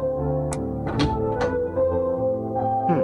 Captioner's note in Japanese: 扉の開閉音：ガッタン